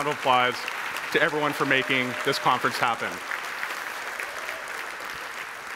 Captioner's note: attendees applauding